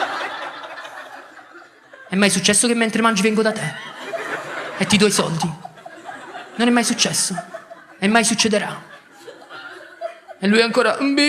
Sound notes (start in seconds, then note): 7.1 laughs